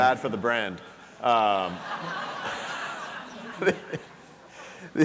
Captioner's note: audience laughing